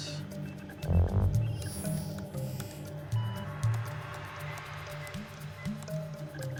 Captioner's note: dramatic music; computers beeping